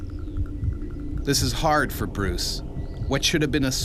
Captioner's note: voiceover